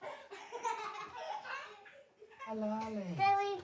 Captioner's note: children laugh